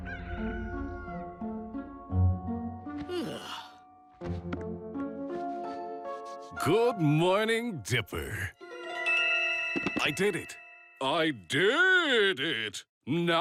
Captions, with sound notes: ( rooster crowing ) ( yawns ) ( in deep voice ) GOOD MORNING, DIPPER. I DID IT! I DID IT!